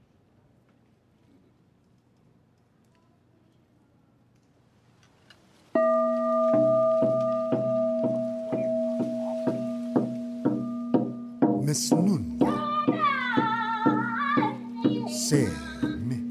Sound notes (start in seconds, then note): 5.8 dramatic music; 5.8 bell Tolling; 12.5 singing in language other than English